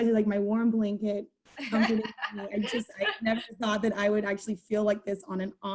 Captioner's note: laughter